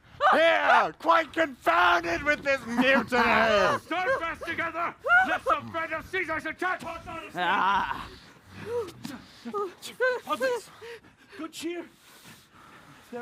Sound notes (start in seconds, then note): 8.9 whimpering